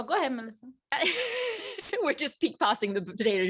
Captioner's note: laughs